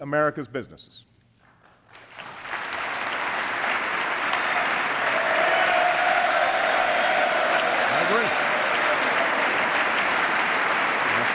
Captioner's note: applause